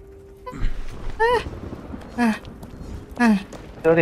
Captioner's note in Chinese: 喘氣